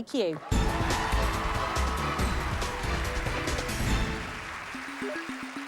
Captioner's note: cheers and applause